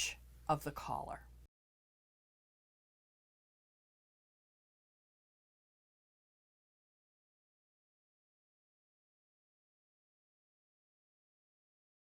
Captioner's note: no Sound Present